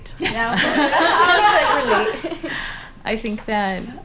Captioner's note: laughter